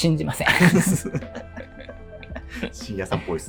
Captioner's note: laughing